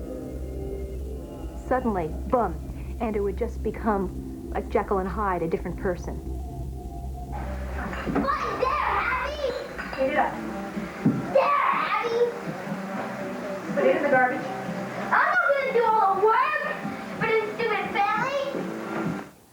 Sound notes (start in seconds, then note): 6.9 yelling; 11.3 more yelling